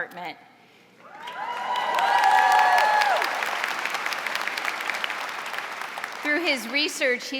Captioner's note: audience cheering and applauding